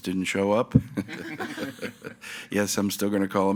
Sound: group laughing

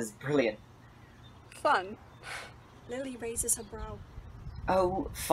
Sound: huffs

